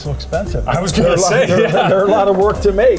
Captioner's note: laughing